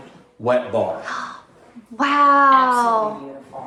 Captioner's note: gasps